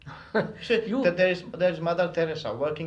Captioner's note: laughs